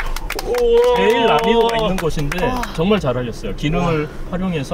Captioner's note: everyone claps in relief